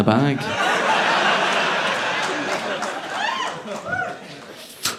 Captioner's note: audience laughing